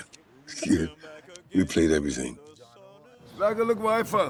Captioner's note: chuckles